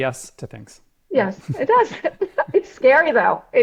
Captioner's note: laughs